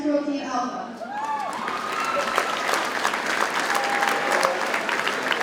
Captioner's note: audience cheers and applauds